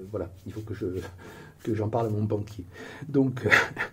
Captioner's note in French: rires